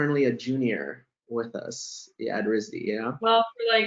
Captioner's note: laughs